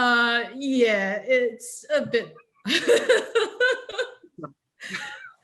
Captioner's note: laughs